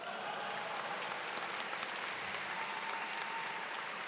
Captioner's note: crowed cheers